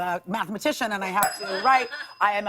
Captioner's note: ding